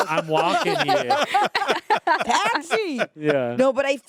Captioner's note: everyone laughs